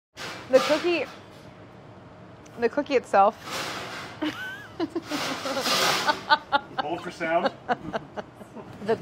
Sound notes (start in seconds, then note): 1.6 clattering; 3.6 clattering; 4.2 laughing